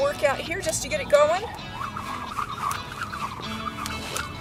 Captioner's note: jump rope whistling